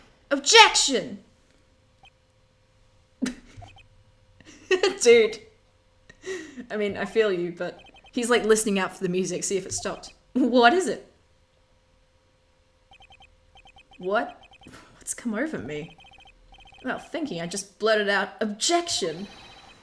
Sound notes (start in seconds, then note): 4.5 laughs